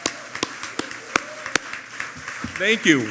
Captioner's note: applause